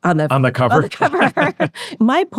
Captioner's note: both laughing